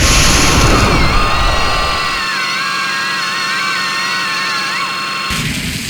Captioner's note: pained cries